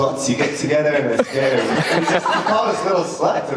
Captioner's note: audience laughter